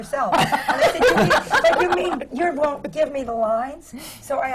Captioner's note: laughter